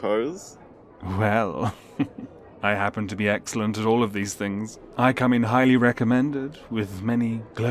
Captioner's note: laughs